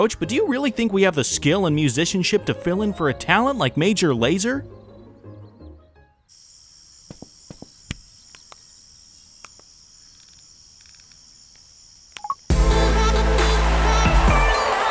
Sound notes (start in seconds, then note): 6.2 crickets chirping; 8.2 buttons tapping; 12.5 upbeat electronic music; 14.7 crowd cheers